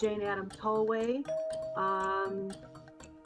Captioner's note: bell chimes